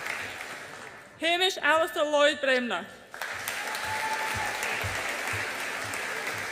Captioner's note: audience applauds and cheers